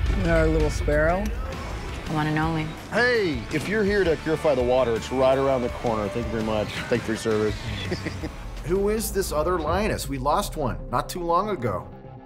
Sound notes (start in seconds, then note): 6.7 laughs